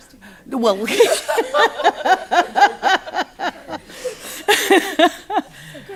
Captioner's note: laughter